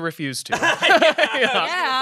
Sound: everyone laughs

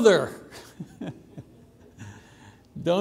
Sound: laughing

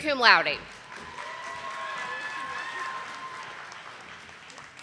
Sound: audience applauding

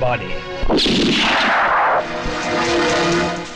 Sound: gunShot

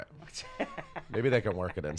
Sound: laughs

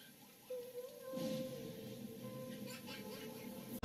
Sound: lightning crackles

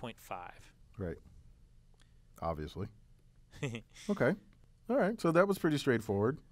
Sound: laugh

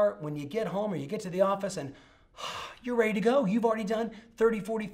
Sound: sighs

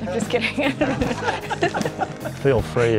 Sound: laughter

